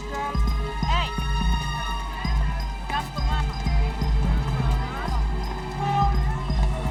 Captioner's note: speaking in foreign language